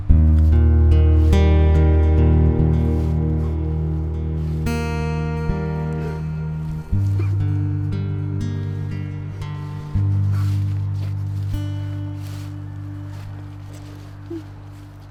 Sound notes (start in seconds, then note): 3.8 whimper; 13.5 music fades